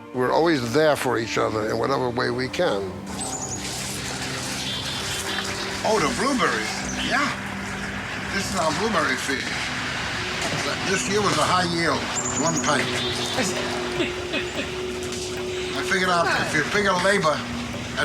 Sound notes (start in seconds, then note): 12.7 laughs